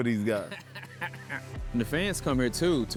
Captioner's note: laughing